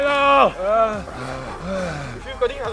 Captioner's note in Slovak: vzdychanie otázneho charakteru